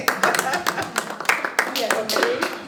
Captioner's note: laughter